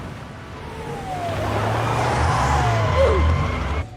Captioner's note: ambulance siren